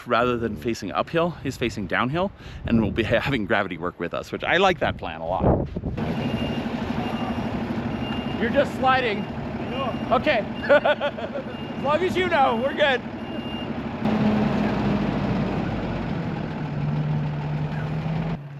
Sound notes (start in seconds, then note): 6.3 truck beeps; 10.5 laughs; 14.2 truck rumbles